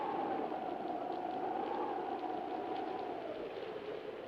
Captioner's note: wind howling